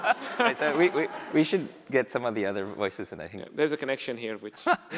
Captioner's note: laughter